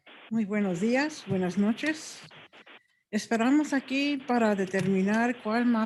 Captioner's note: speaking in foreign language